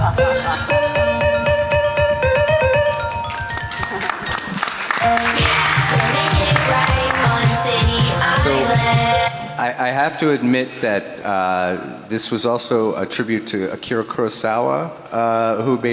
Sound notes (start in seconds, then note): 0.0 mysterious music; 0.3 lively music; 2.4 audience applauding